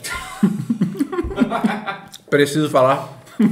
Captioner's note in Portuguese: risos